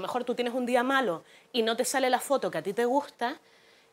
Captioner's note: none